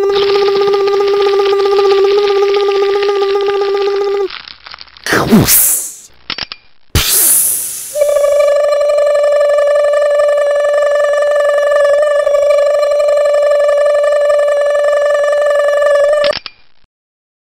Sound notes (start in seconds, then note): 0.2 crunching; 4.9 pssss click pssssss; 7.0 hydraulics sound